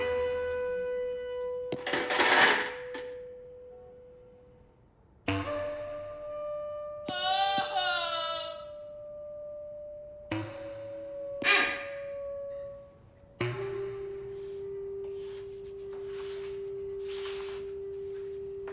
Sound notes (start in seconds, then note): 1.7 chain falling; 5.6 chaotic music